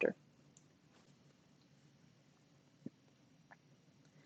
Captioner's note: silence